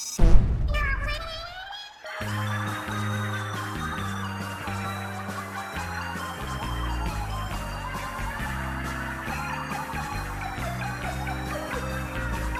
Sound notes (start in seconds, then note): 1.8 Several sanitised Octarians are laughing... laughing at who, perhaps